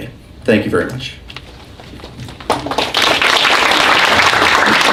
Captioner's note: applause